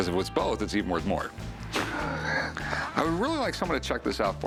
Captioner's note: laughs